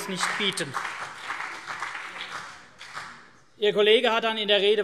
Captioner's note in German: Vereinzelter Beifall CDU und BÜNDNIS 90/DIE GRÜNEN